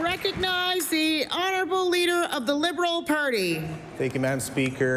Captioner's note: applause